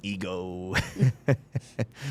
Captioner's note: laughing